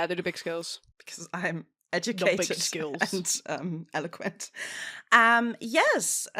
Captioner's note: laughing